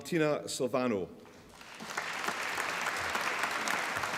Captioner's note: applause